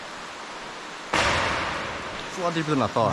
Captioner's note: crash